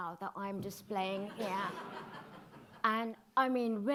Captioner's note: audience laughing